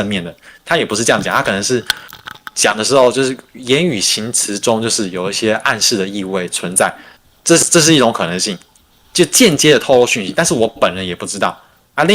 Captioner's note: non-english speech